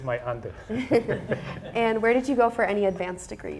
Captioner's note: all laughing